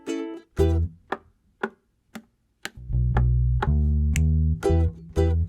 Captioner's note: knock knock slap slap knock knock snap